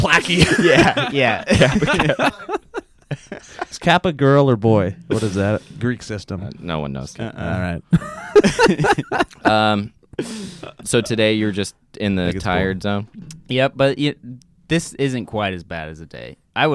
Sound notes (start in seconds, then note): 0.0 laughing; 7.9 laughs